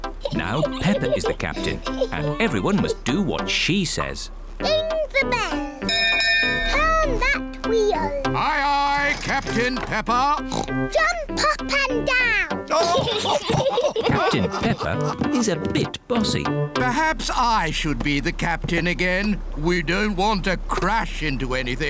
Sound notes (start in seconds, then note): 5.8 rings bell; 10.4 oinks; 12.7 all laugh